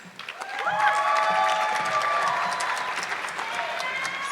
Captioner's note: audience clapping